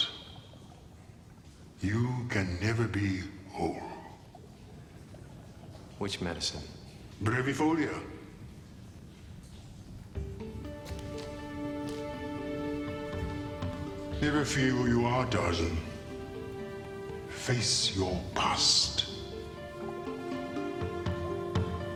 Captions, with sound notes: you can never be whole. - Which medicine? (speaking in foreign language) (dramatic synthesized music) - Never forget who you are, Tarzan. Face your past.